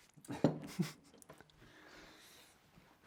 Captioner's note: chuckles